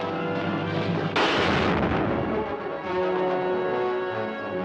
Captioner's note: explosion booms